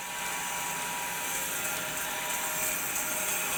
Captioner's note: saw whirs